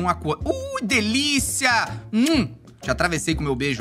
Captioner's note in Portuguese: som de beijo